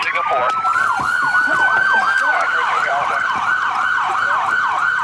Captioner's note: sirens blaring